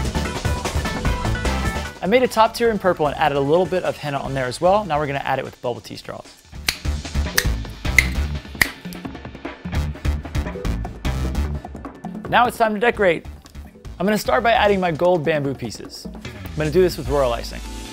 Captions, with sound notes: I made a top tier in purple and added a little bit of Henna on there as well Now we're going to add it with bubble tea straws *satisfying snip sounds* Now it's time to decorate. I'm going to start by adding my gold bamboo pieces. I'm going to do this with royal icing.